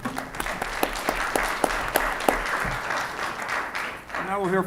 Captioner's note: audience applauds